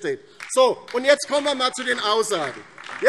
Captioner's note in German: Beifall DIE LINKE